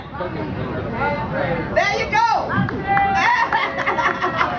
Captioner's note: laughs